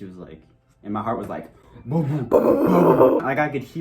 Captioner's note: heart pounding